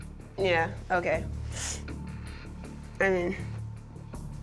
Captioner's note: inhales